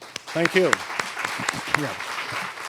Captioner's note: applause